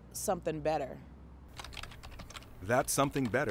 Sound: keys clicking on keyboard

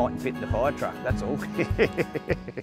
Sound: laughs

